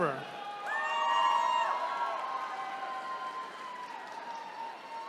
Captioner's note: attendees cheering